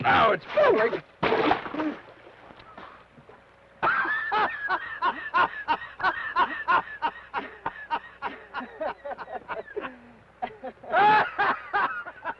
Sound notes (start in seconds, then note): 1.2 water splashes; 3.8 laughs